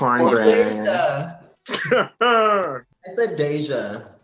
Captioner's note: laughs